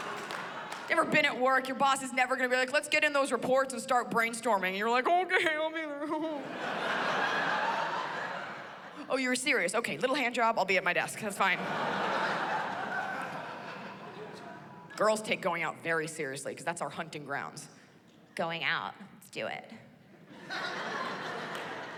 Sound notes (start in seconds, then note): 6.0 chuckles; 11.5 laughter; 20.2 laughter